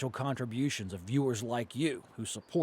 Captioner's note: voiceover